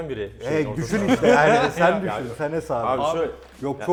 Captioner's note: laughs